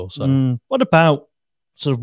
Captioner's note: humming